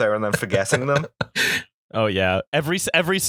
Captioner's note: laughter